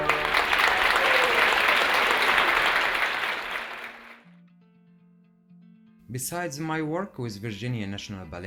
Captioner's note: applause